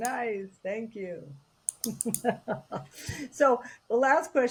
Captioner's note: chuckles